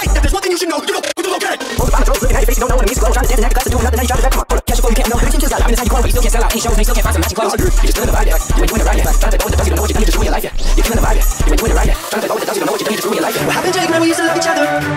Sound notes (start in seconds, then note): 12.7 record scratches